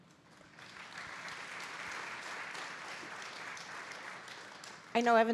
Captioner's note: audience applauding